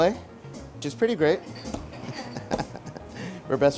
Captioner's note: laughs